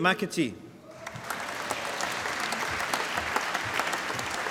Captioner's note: applause